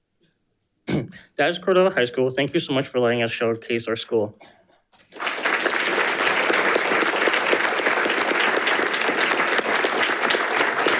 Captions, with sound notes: - That is Cordova High School. Thank you so much for letting us showcase our school. (audience applauding)